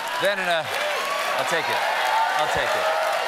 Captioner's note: cheers and applause